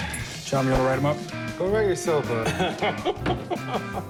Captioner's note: laughing